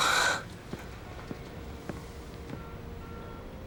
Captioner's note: sighs